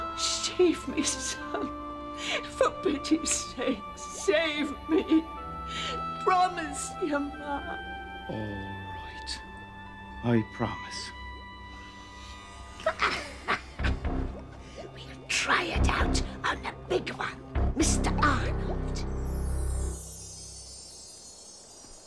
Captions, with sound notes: Save me, son, for pity's sake, save me. Promise your ma. - All right. I promise. (cackling) - We'll try it out on the big one, Mr. Arnold.